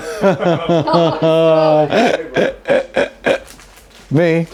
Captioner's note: laughing